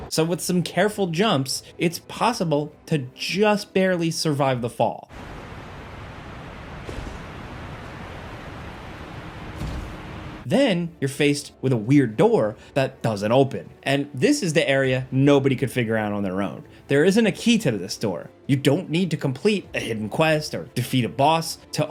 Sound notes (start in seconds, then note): 6.9 foot thuds